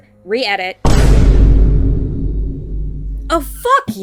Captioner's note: boom